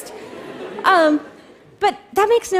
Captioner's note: laughter